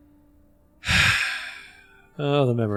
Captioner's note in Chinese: 叹气